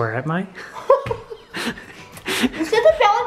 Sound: laughing

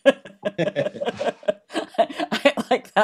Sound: laughter

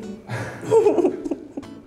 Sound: laughs

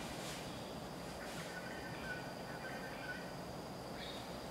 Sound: birds chirping

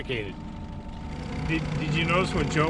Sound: boat engine idling

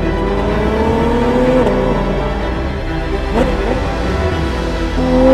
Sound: dramatic classical music continues; engine revving continues

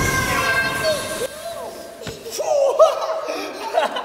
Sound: laughs

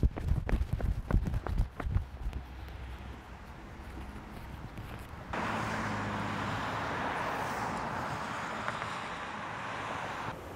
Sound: footsteps pounding

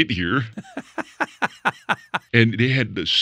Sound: laughs

